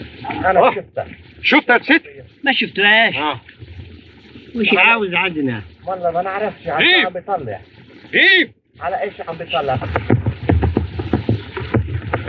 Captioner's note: speaking Foreign Language